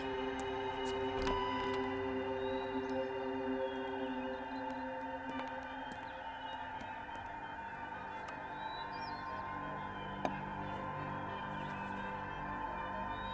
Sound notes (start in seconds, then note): 1.9 door bell dinging; 10.2 ominous music